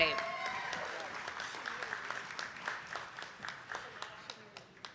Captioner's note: attendees clapping